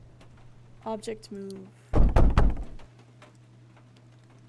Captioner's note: three Loud Bangs